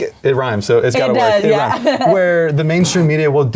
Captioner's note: chuckles